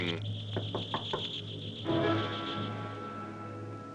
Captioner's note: knocking